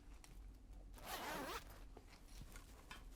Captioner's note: zipper sounds